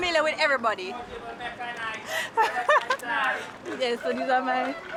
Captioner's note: mixed chattering